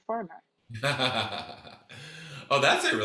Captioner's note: laughs